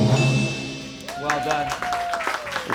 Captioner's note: drum roll hisses; bell chimes